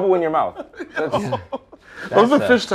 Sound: laughter

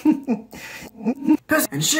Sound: awkward laughter in reverse; awkward laughter

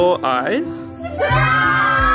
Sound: crowd

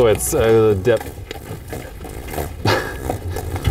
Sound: the horse farts

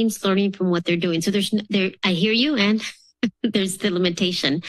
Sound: laughs

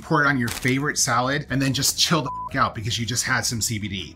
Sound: beep

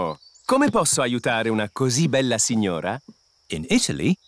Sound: speaks italian

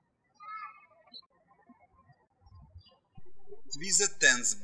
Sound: birds chirping

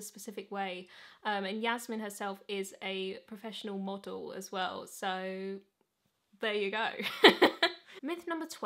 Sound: laughs

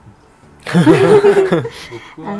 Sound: laughs

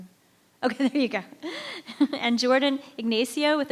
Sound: laughs

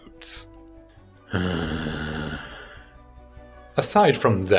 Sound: frustrated groan

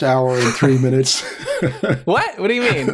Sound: chuckles

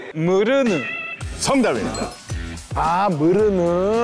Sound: ding

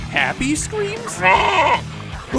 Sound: bleating

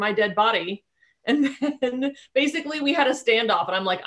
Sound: chuckling

